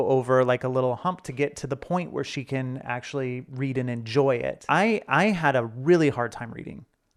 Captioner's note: none